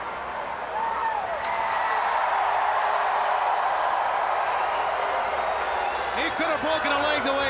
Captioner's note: crowd cheering